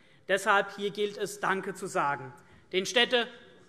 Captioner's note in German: none